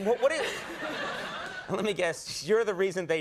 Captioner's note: crowd laughs